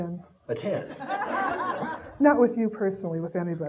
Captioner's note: audience laughing